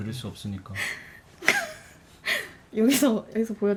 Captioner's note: snort